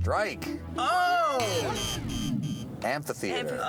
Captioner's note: buzzing